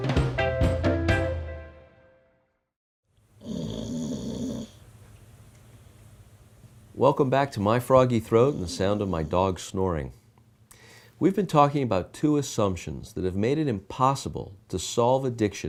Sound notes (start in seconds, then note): 3.4 dog snoring